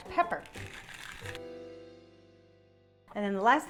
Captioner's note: pepper mill grinding